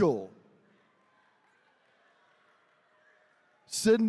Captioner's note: attendees cheering